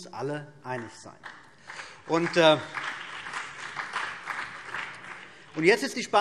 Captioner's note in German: Beifall BÜNDNIS 90/DIE GRÜNEN und vereinzelt CDU